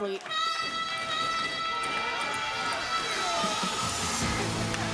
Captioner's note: crowd cheering